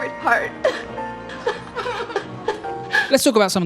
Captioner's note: whimpering loudly